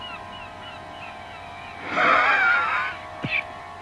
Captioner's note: growling